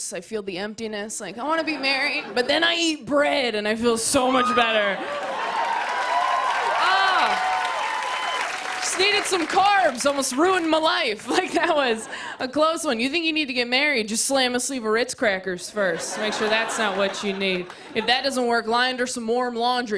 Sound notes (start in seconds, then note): 1.6 laughter; 4.4 cheers and applause